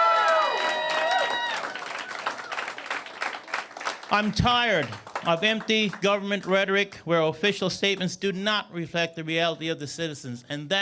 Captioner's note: cheers and Applause